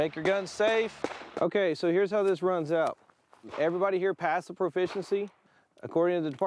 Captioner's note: shots fired